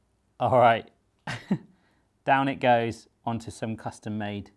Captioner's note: laughs